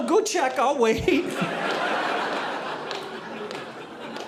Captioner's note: audience laughing